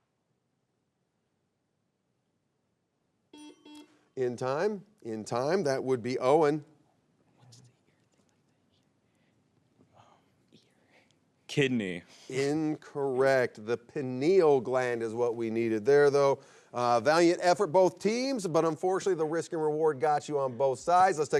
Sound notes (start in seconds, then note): 3.3 buzzer beeps; 3.4 bell chimes; 7.3 team whispering; 12.0 chuckles